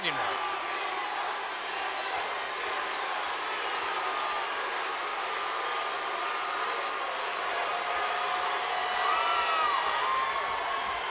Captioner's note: applause